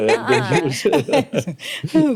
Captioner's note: all laughing